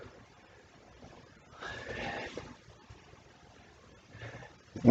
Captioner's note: whispers